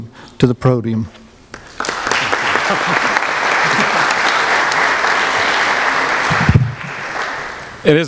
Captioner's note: applause